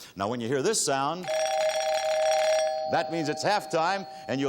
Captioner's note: bells ring